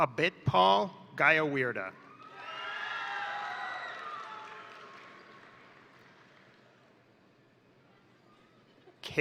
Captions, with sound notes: Abitpal Gyawali, (crowd cheering) (crowd applauding)